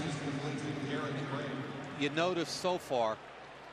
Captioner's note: pa announcement